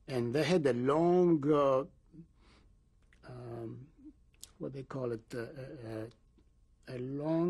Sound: pauses for 3 seconds

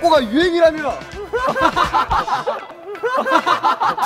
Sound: laughing out loud

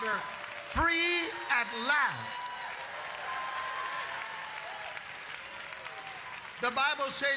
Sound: congregation applauding

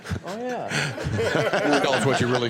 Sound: laughter

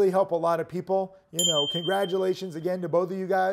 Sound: bell chimes

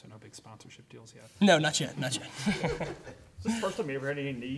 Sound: laughing

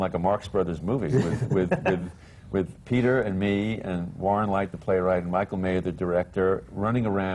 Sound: laughs

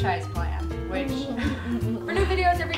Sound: Sarah laughs

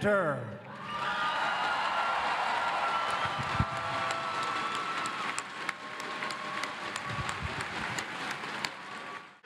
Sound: applause

